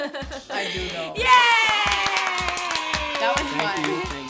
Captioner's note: cheering